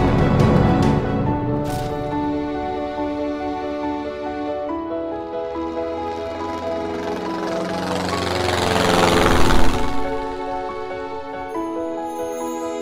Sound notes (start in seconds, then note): 1.5 crash; 4.9 airplane flying